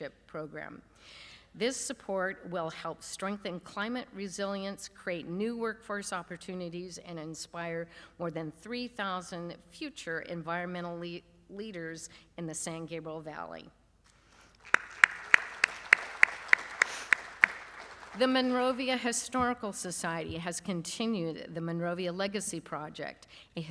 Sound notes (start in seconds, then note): 14.6 applause